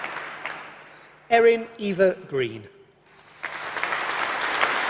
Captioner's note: applause